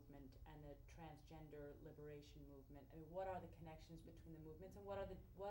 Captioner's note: none